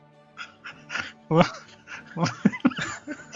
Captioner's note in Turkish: kahkaha